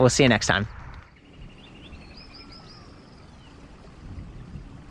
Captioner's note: birds chirping